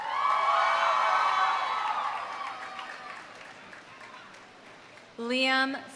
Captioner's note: audience cheering; audience applauding